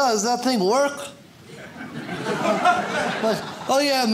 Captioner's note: audience laughs